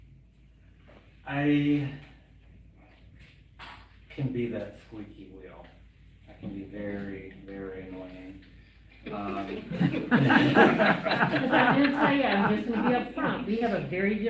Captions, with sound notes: >> I can be that squeaky wheel. I can be very, very annoying. (Laughter). >> Because I will tell you up front, we have a very